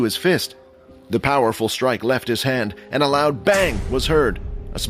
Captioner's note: bang